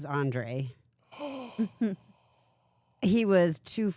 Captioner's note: Bert gasps